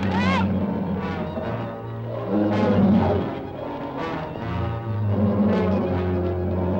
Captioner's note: dramatic music; Nora screams; lizard bellowing